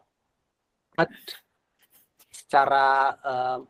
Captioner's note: non-english speech